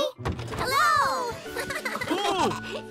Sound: chuckling

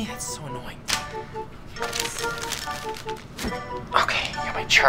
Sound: paper flicks

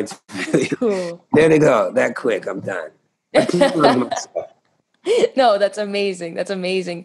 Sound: laughter; laughter

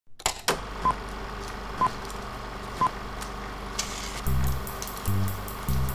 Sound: film projector sound; upbeat music starts

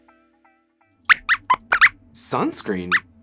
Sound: squeaks squeaks

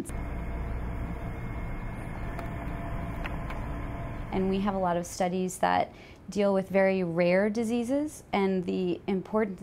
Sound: machine noise

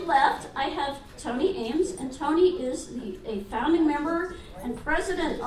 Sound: none

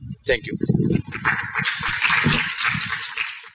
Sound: applause

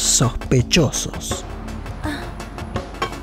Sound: groans

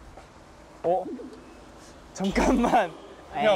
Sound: hesitates

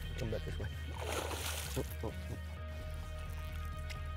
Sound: water splashes

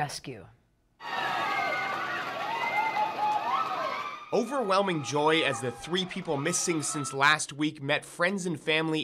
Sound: cheers

